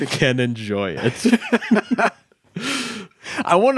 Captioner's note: laughing